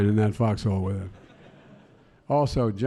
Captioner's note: laughter